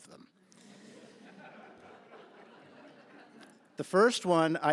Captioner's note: laughter